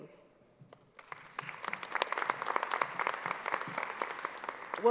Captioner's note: applause